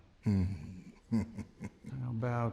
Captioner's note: chuckling